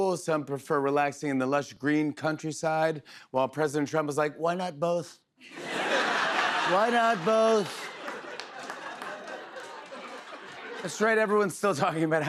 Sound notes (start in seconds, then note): 5.4 laughter